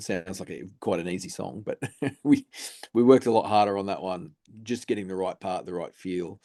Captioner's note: chuckles